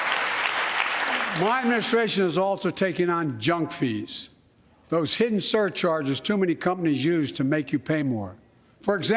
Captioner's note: applause